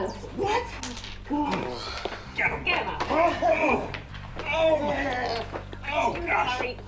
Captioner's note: grunting